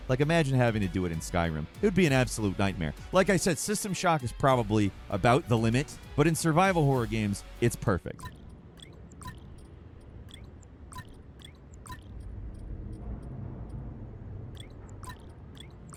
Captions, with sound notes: Like imagine having to do it in "Skyrim." It would be an absolute nightmare. Like I said, "System Shock" is probably about the limit. But in survival horror games, it's perfect. (inventory clicking and beeping)